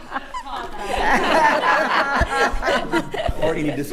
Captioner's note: attendees laughing